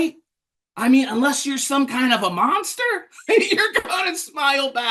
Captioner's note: laughs